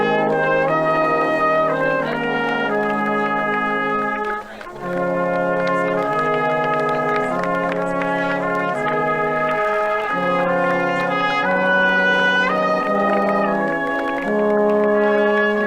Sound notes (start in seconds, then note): 2.5 audience members clapping; 8.9 people chattering; 12.9 gentle music